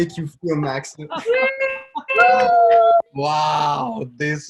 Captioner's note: cheering and applause